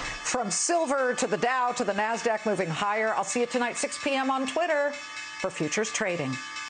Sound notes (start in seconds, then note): 1.6 closing bell rings